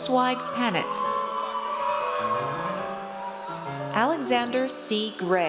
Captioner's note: audience cheers